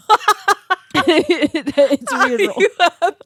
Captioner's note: girls laughing